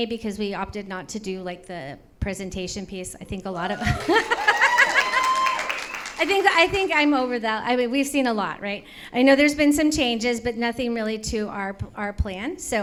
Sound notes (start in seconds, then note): 3.6 audience cheers; 3.6 laughs